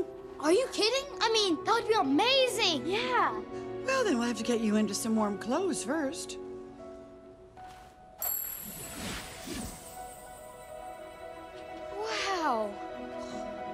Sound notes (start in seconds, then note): 8.6 whooshing